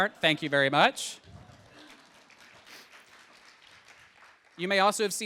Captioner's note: audience applauding